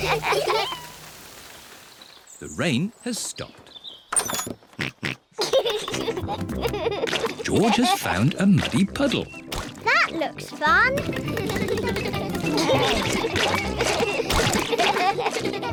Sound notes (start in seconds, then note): 2.1 snorts and giggles; 9.1 all giggle